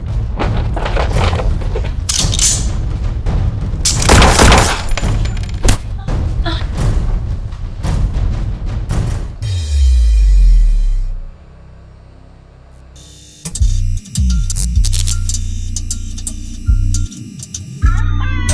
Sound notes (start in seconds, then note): 0.1 gun clicks; 0.3 drawer rattles; 3.8 gun blasts; 4.4 hand claps face; 7.9 dramatic music; 13.7 electricity buzzes